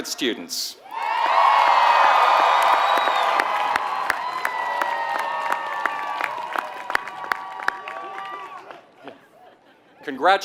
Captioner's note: applause